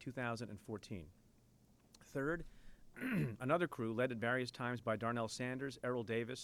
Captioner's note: clears throat